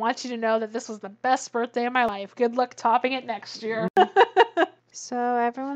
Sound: laughs

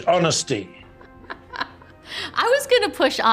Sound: Ming-Na laughs

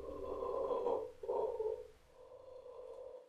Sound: guttutal, growling noises

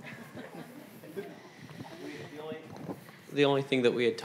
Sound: audience laughing

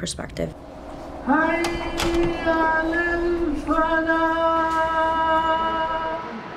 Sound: speaker speaking in foreign language

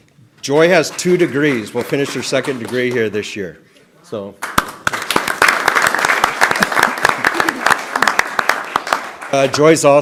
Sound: applause

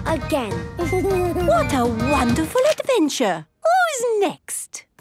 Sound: Danny giggles

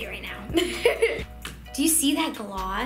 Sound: laughing; sploshing

